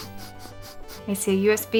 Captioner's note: dog sniffing